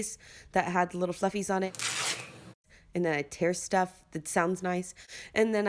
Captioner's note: tearing sound